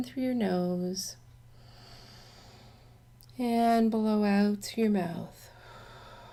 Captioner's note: deep breath in sound; exhale sound